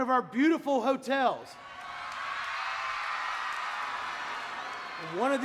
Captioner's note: audience cheering